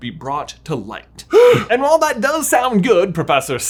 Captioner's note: gasps